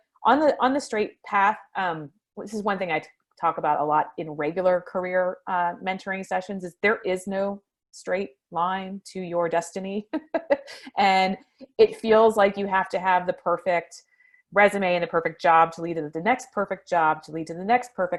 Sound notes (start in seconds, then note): 10.3 laughs